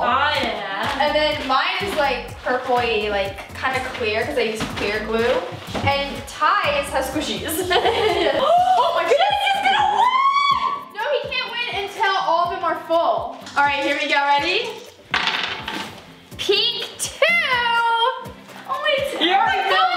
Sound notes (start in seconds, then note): 7.4 giggling; 8.8 gasping; 14.7 jangling